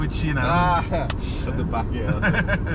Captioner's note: laughs